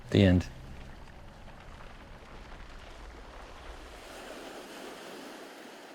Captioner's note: waves crashing continues